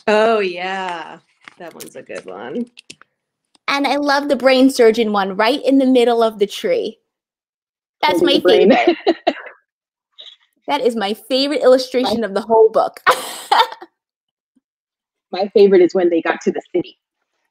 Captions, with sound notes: - Oh, yeah. That one's a good one. - And I love the brain surgeon one right in the middle of the tree. That's my favorite. That is my favorite illustration of the whole book. (laughing) - My favorite is when they got to the city.